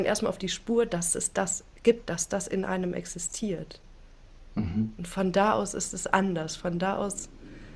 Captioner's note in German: räuspern